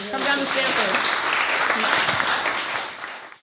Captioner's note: applause